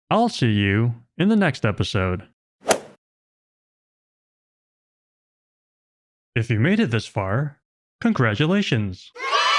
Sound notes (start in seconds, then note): 2.7 golf ball hit sound effect; 9.1 kids cheering sound effect